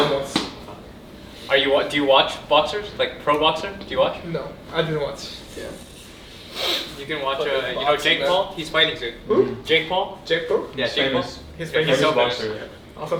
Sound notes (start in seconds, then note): 6.1 sniffs